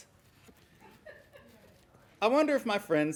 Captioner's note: laughing